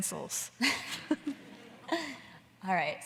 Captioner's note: everyone laughing